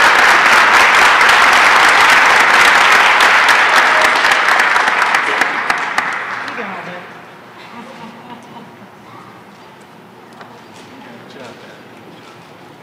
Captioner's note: applause